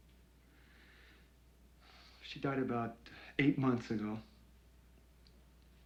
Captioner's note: breathes uneasily